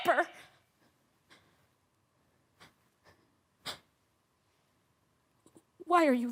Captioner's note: soft sharp breaths